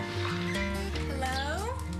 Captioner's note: bag rattling